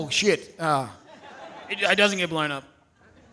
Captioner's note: audience laughing